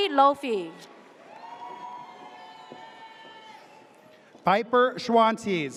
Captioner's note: audience cheers